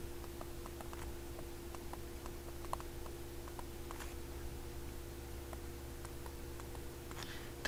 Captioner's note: writing Sounds